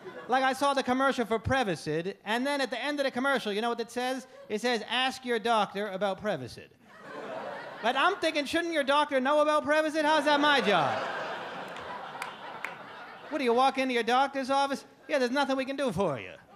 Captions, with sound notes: Like I saw the commercial for Prevacid. And then, at the end of the commercial, you know what it says? It says ask your doctor about Prevacid. And I'm thinking, shouldn't your doctor know about Prevacid? How is that my job? (audience laugh) What, do you walk into your doctor's office, "Yeah, there's nothing we can "